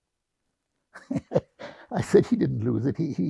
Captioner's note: laughing